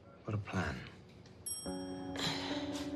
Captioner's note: elevator bell dings